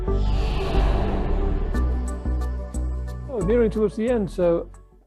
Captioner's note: air swooshing